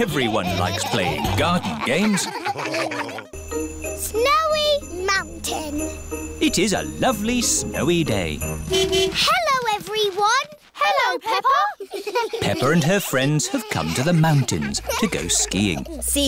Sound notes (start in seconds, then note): 0.0 all laughing; 8.4 horn honking; 11.6 giggling